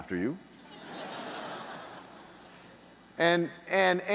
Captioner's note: audience laughing